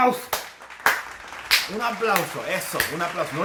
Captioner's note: applauses